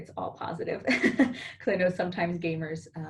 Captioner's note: laughing